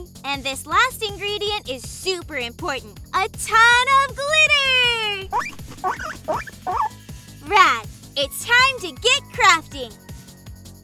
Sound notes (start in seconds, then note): 5.3 Parsley squeaking